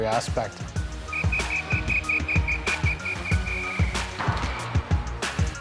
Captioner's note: blowing whistle